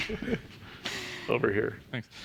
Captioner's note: chuckles